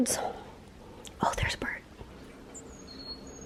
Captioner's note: whispers